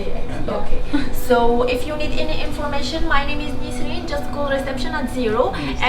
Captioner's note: telephone